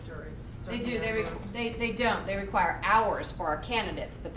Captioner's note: none